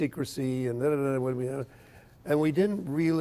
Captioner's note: stammering